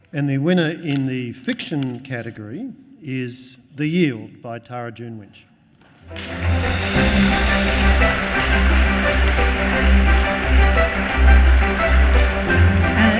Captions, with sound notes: - And the winner in the fiction category is "The Yield" by Tara June Winch. (audience applauds) (bright music)